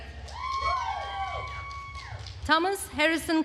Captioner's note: attendees cheering and applauding